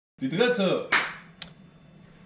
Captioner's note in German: klatscht